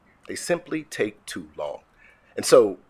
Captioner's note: none